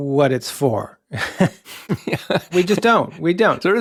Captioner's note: both chuckling